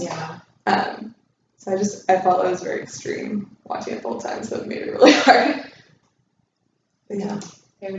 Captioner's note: laughs